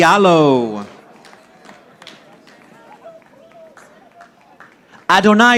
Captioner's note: audience applauding